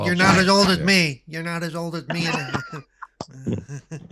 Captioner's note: laughing